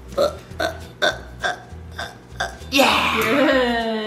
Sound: dad grunts

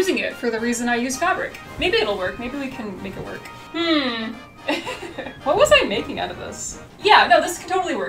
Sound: laughs

